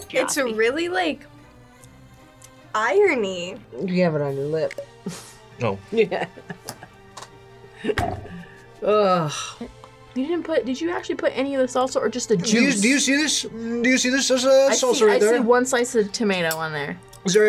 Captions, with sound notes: - It's really like irony. - You have it on your lip. - Oh. - Yeah. (laughs) Ugh. - You didn't put, did you actually put any of the salsa, or just the juice? - Do you see this? Do you see this? There's salsa right there. - I see one slice of tomato on there.